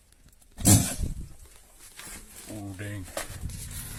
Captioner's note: lion snarls